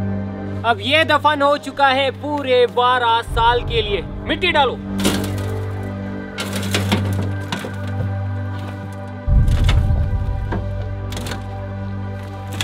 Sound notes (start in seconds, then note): 5.5 thud; 8.9 continuous Thud